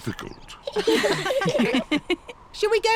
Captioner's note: all laughing